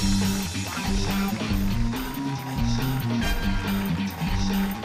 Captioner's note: cheers and applause